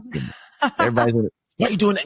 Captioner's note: laughs